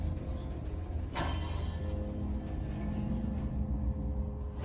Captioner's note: ding!